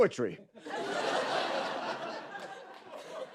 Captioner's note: laughter